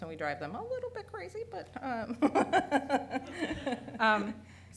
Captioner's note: laughing